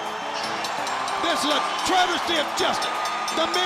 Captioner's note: bell ringing